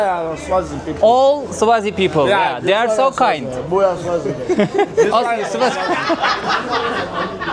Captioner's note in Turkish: kahkaha